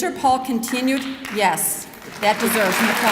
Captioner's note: clapping